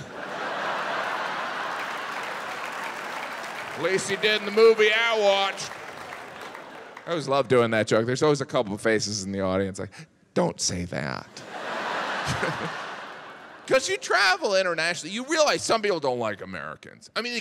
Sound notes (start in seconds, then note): 0.0 audience laughs and claps; 5.8 audience claps; 11.3 audience laughs